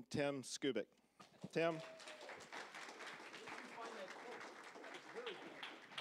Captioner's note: applause